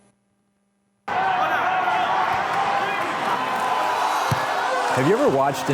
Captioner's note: crowd noise